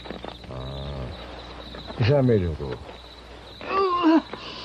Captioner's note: deeply sighing